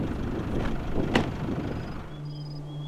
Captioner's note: door slams; soft music